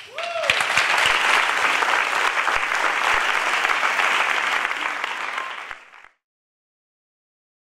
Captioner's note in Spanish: aplausos